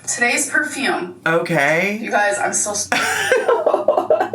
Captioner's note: laughs